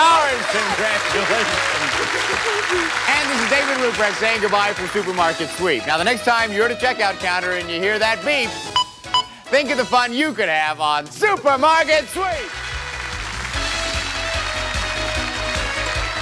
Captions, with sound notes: -Yes! -Congratulations. This is David Ruprecht saying good-bye for "Supermarket Sweep." Now, the next time you're at a checkout counter and you hear that beep... (beep beep) think of the fun you could have on... - "Supermarket Sweep"! (applause)